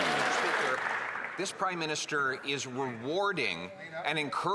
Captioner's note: some Applause